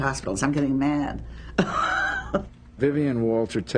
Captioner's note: laughs